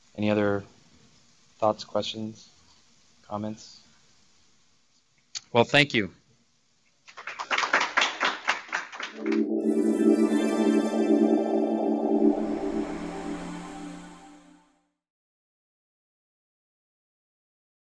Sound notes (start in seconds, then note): 7.0 applause